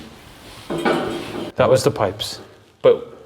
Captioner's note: pipe banging